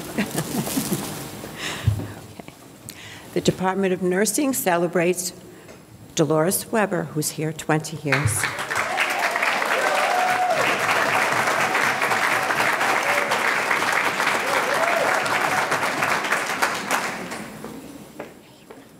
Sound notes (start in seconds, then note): 8.5 audience cheering; 9.9 audience clapping